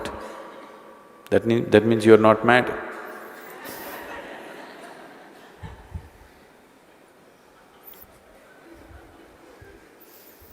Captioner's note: laughter